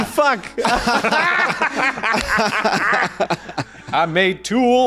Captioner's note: laughing